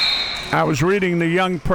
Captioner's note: buzzer blaring